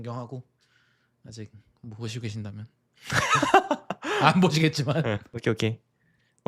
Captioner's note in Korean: 웃음